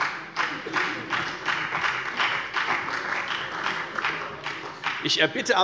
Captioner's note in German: Allgemeiner Beifall